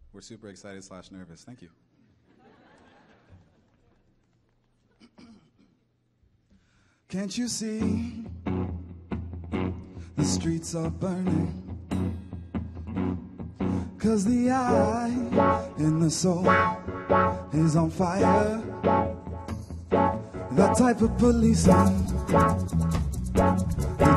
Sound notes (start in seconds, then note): 2.2 audience laughing